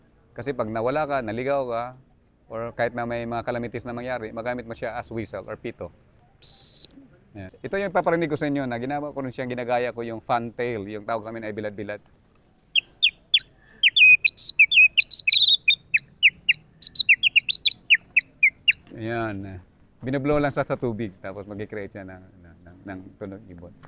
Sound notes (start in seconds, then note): 6.4 whistles; 12.7 mimics Fantail chirping